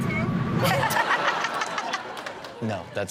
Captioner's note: audience laughs